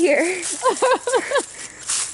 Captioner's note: laughs